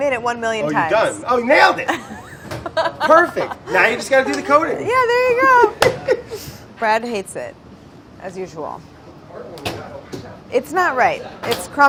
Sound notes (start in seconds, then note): 1.8 laughing